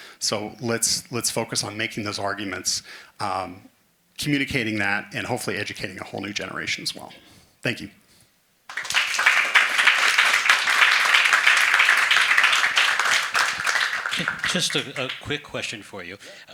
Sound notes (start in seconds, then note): 8.7 attendees applauding